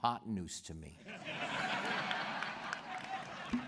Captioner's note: laughter